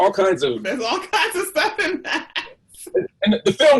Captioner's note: laughs